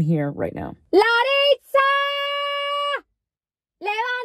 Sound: shouting

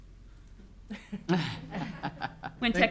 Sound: giggling

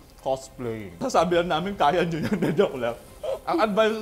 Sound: laughs

